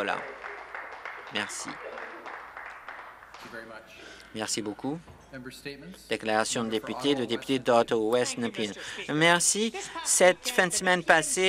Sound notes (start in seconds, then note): 0.0 applause